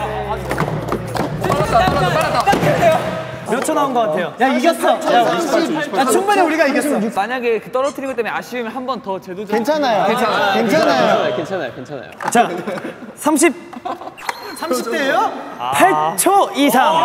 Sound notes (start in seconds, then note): 2.4 wham